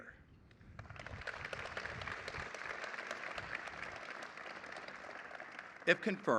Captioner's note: applause